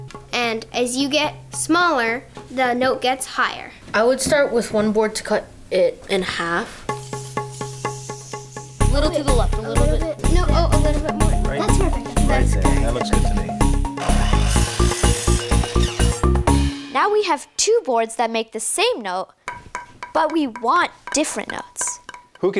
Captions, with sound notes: And as you get smaller, the note gets higher. - I would start with one board to cut it in half. (hollow tapping) - A little to the left. - A little bit... No, a little bit more. That's perfect! - That looks good to me. (saw whirring) - Now we have two boards that make the same note, but we want different notes.